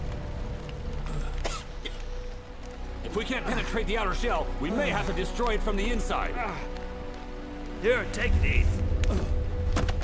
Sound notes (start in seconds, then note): 1.2 man coughing